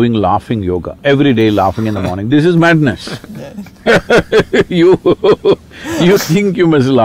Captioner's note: laughter